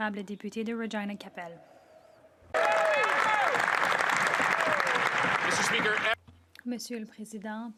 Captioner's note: some Applause